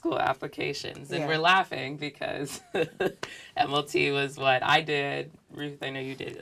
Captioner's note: laugh